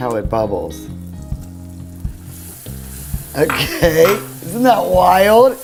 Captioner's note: sizzling